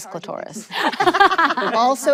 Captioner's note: everyone laughs